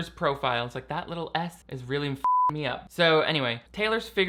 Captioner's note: beep